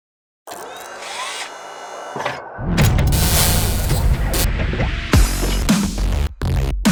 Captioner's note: machines whirring; static fizzing; energetic music